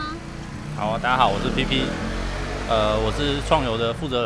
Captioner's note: brrrrrrrrrm